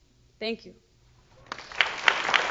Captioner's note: applause